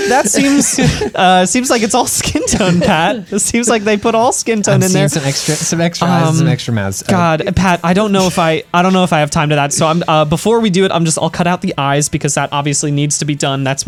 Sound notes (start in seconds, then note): 4.7 pat